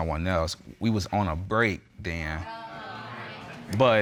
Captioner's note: audience exclaiming